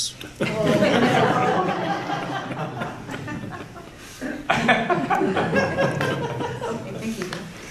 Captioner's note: laughter